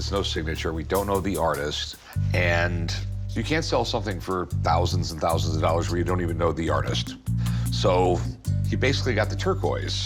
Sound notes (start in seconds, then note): none